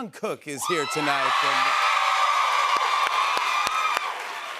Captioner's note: cheers and applause